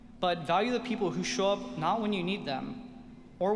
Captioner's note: none